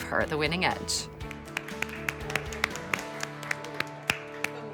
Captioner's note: all applauding